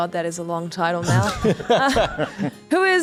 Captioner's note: laughter